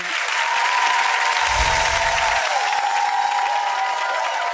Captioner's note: audience cheering